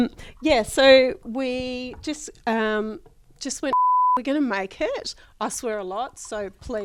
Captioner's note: beep